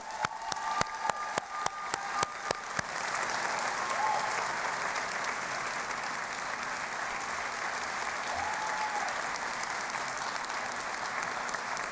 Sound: applause

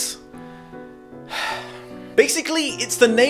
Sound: loud sigh

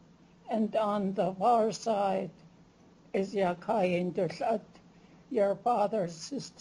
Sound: non-english

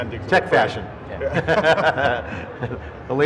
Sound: laughter

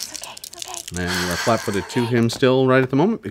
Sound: dice clatter

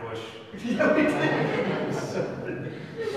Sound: audience laughs; laughs

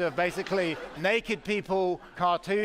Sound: laughter

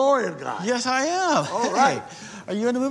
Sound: chuckles

